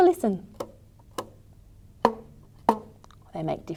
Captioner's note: sounds of a rubber band being plucked can be heard